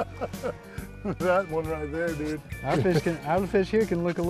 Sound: laughter

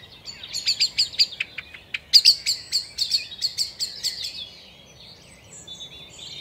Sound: birds alarm-calling

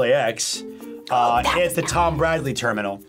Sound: whispers

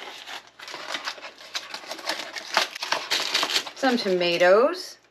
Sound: paper container crinkling

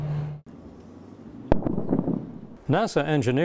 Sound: sound of sonic boom

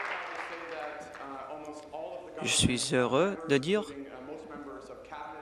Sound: applause

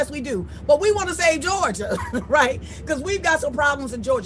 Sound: laughs

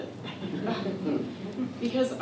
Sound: laughter

